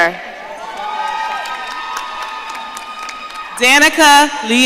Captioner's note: audience cheering